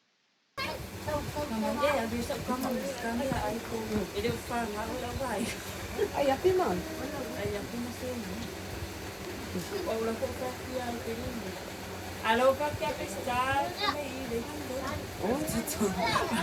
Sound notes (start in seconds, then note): 2.7 Speaking in Samoan